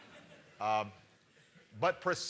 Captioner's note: laughter